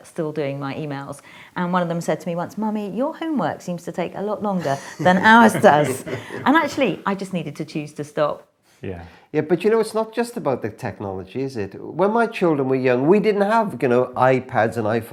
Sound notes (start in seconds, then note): 6.4 laughing